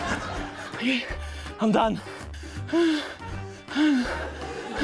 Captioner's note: laughter; breathes heavily